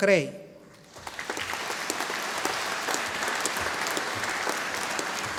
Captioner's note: audience applauding